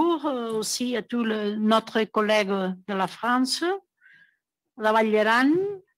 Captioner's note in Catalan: en francés